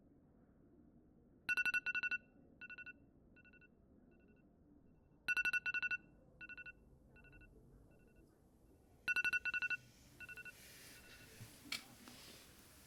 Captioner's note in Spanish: Alarma del móvil